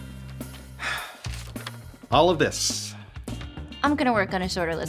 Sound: sighing

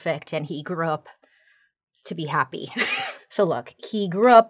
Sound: laughs

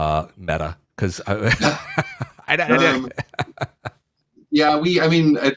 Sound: laughs

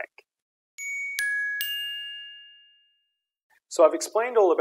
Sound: bells chiming

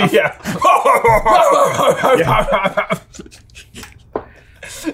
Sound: imitates laugh; laughs

